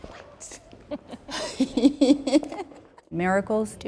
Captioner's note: laughter